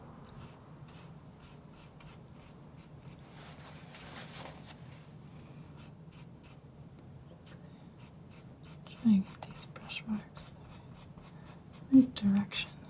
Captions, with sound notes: [scratching] Trying to get these brush marks right direction.